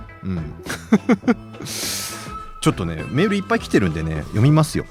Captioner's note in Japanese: 笑い